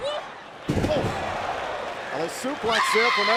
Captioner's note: crowd cheering